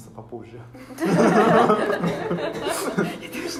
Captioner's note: Смех